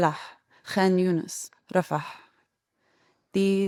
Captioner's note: speaking in foreign language